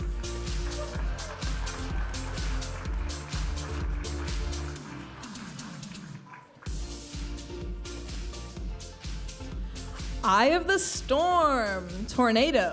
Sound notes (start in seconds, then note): 0.0 audience applauding and cheering